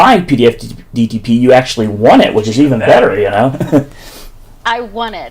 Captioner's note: laughs